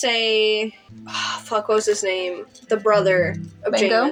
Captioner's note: sigh